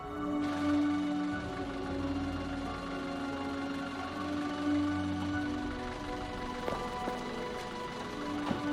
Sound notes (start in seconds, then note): 0.0 engine rattling